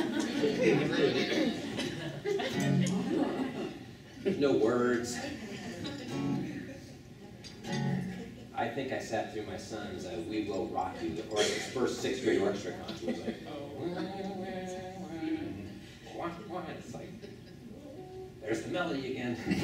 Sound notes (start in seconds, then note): 0.0 laughing; 7.5 guitar strumming; 13.9 humming melody